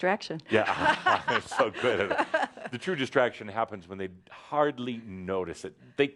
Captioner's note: they laugh